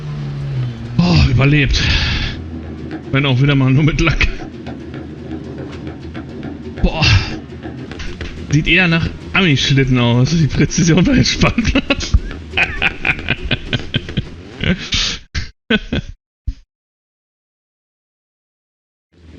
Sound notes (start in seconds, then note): 15.2 laughs heartily